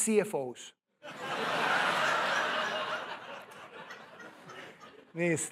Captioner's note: laughter